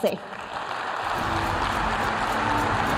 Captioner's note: applause